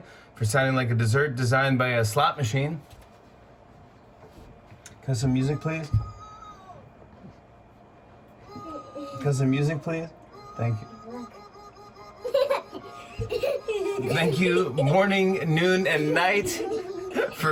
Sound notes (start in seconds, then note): 8.2 chuckles; 12.2 laughter